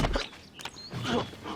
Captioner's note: thud